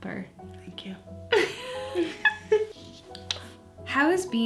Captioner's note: laughs